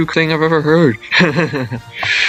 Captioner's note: chuckles